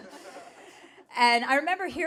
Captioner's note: audience laughing